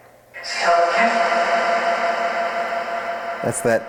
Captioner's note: spirit box echoing